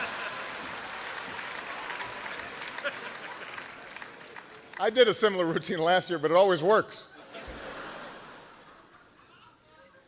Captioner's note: laughter